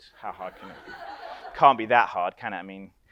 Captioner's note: audience laughs